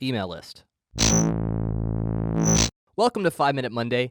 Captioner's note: electronic sounds